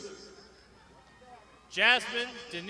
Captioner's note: crowd shouting